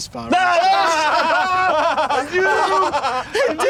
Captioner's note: james laughs uncontrollably